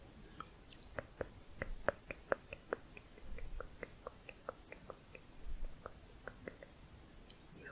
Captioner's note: tongue clicking